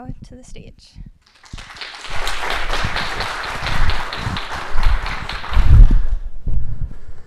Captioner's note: audience clapping